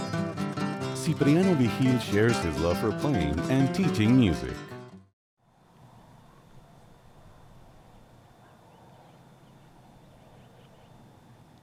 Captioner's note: nature sounds